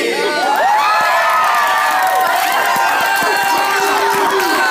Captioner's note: cheering